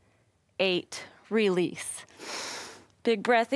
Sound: inhales

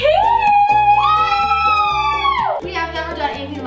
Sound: excited screaming

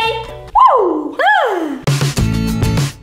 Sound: moaning; upbeat music

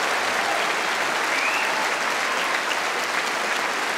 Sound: applause

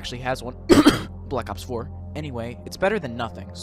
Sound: cough cough

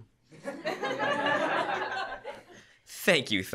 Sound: laughter

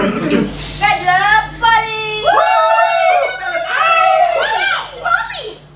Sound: cheers

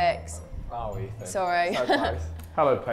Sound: chuckles

